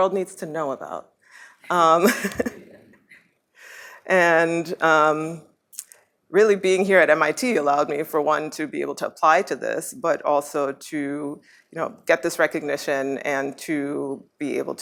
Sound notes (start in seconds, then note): 2.0 laughs